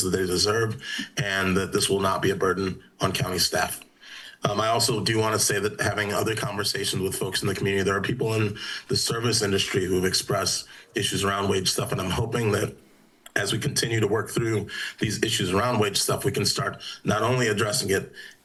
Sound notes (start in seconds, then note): none